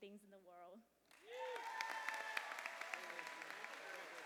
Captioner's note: cheers and applause